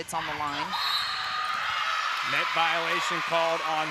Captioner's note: cheering